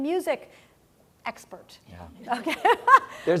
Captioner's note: laugh